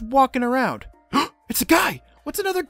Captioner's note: gasp